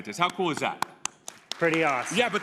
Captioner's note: applause